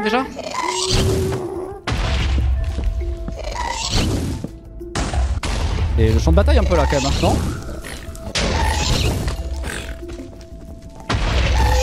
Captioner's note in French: bruits d'explosions et de mobs divers